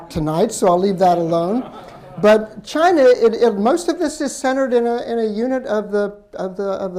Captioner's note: laughter